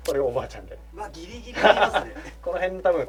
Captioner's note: laughs